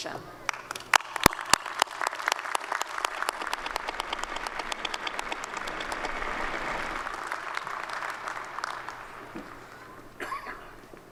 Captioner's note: applause